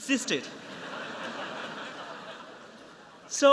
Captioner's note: laughter